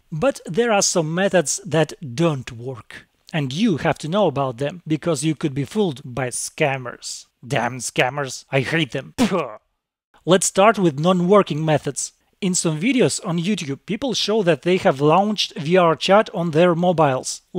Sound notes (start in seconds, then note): 9.2 pew